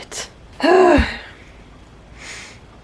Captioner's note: angry exhale